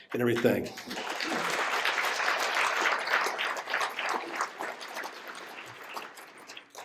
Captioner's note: applause